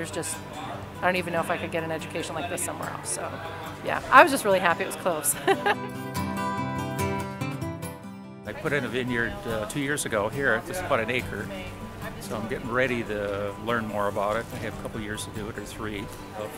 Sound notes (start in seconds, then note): 5.2 laughs; 7.0 guitar plays